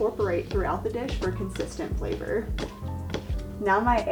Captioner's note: knife chops